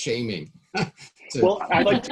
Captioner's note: laughing